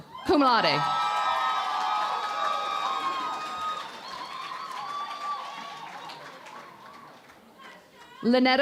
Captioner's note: cheering and Applause